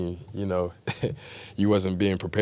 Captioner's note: laughs